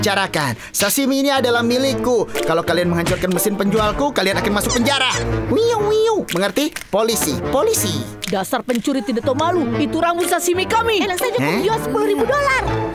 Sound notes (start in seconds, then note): 5.0 imitates police siren